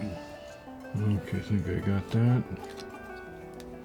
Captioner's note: sound of cane cracking